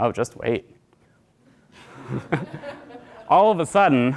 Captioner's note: laughter